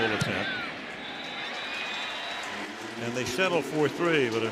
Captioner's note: whistle blows